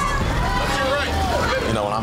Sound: other contestants shouting

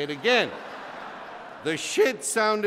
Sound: laughter

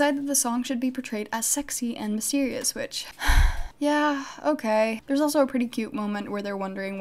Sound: sigh

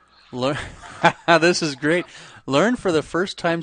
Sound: laughs

